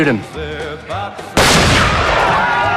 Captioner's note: gunshot